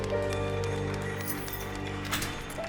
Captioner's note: keys rattle